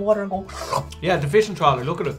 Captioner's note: MC sucking